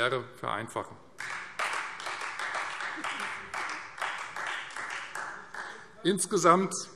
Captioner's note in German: Beifall Freie Demokraten und vereinzelt SPD